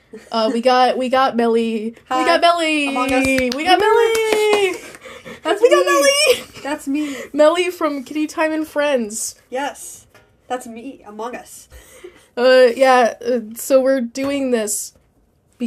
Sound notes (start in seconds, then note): 2.9 clapping; 13.2 stutter